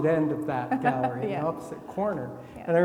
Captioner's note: laughing